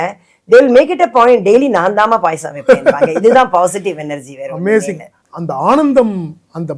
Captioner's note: laughs